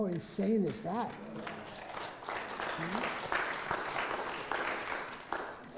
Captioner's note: audience clapping